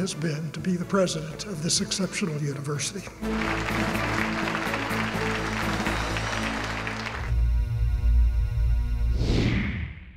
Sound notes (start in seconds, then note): 3.2 applause